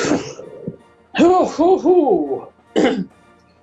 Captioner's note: sighs; inhales; clears throat